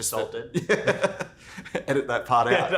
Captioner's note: laughs